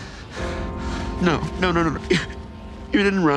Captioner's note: Dustin sobbing